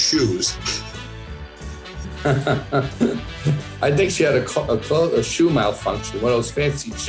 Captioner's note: he laughs